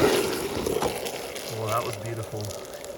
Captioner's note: acetone bubbling